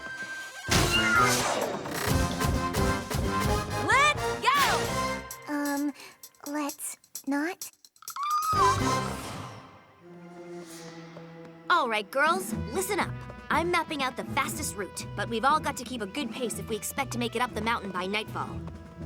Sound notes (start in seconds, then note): 0.7 door hinges creak, door slams; 0.9 squeals; 8.0 squeals nervously